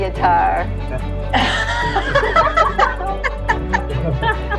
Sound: laughter

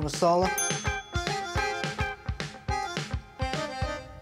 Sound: buzzer dings

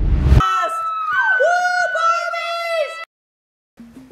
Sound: cheers

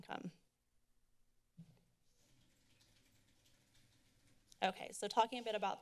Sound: silence

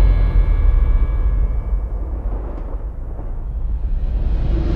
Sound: thunder rumbling

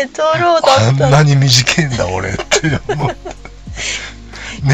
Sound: laughs

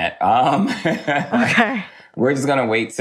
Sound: laughs

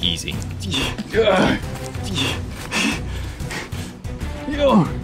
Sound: groaning and breathing heavily

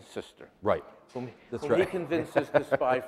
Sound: laughs

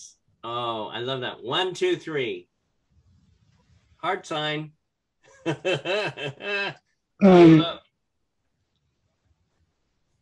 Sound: laughter

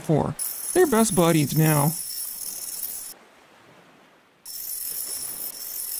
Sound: mechanical whirring

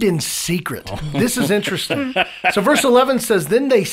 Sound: laughing

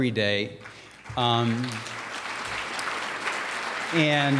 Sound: applause

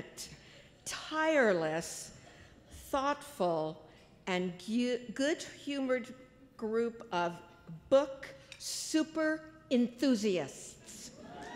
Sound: applause

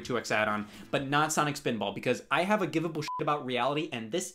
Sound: beep

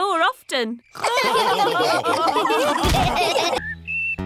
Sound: all laughing

